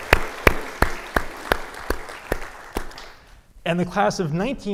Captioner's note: audience applauding